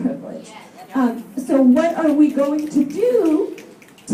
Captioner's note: snaps and people saying "Yes" in audience